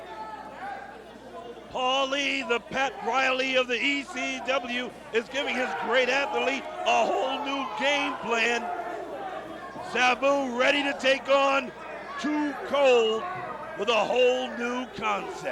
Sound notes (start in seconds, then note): 3.0 crowd chatter